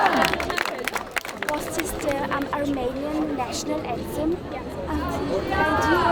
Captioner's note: applause